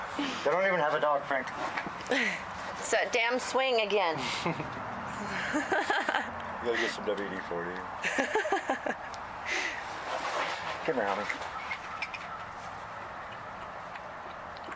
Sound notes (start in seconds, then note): 2.5 laughs; 5.2 laughter